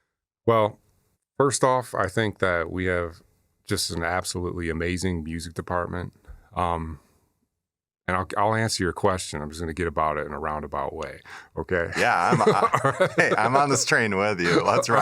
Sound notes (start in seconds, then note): 11.9 chuckles